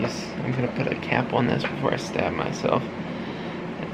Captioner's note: none